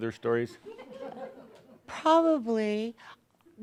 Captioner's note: a few giggles